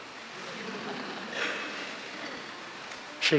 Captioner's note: laughter